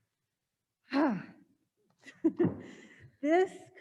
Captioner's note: sighs